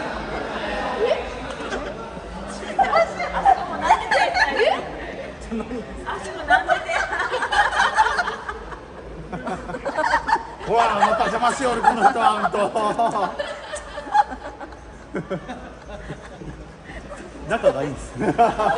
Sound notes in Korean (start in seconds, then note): 13.3 웃음